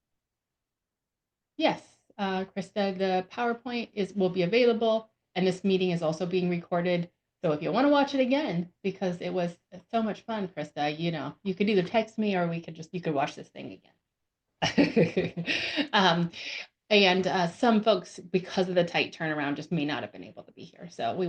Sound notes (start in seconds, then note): 14.6 chuckles